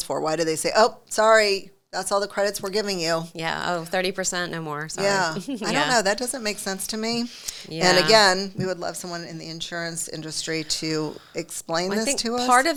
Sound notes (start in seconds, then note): 5.0 laughs